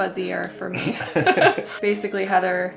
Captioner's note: laughs